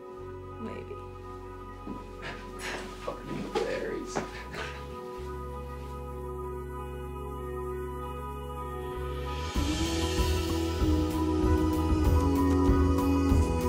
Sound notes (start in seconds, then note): 2.2 scoffs; 4.9 hopeful guitar; 9.3 rhythmic and hopeful rock music with pleasant vocals